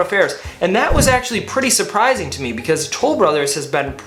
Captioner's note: swoosh